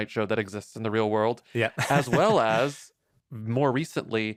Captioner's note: laughs